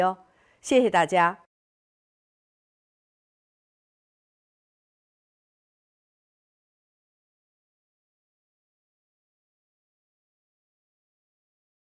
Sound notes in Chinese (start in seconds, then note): 6.0 空白_音频